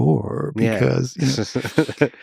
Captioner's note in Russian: сарказм